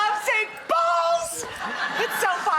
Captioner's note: audience laughs